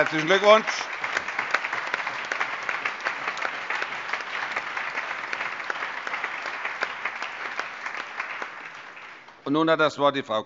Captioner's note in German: Allgemeiner Beifall